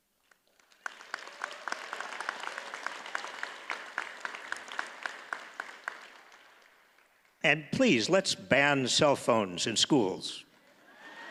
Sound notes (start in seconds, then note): 0.2 audience applauds